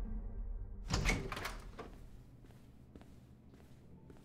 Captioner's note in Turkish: Kapı açılma sesi; Müzik - Gerilim